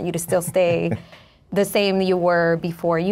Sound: chuckles

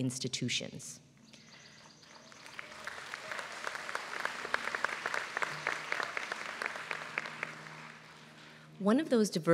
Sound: applause

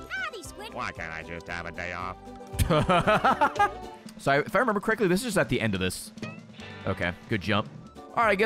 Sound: laughs

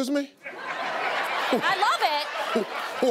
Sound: audience laughing

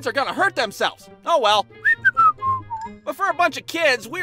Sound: whistling

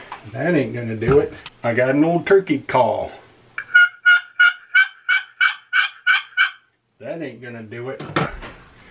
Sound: turkey call

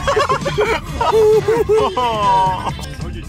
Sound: laughing

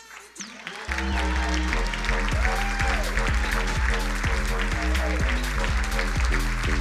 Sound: crowd cheering; upbeat electronic music

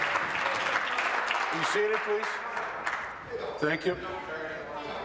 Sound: applause

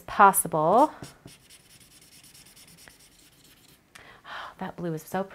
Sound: marker squeaks

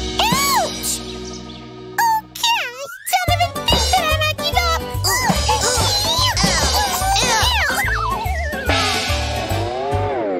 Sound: groans

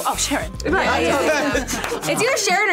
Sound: group laughs

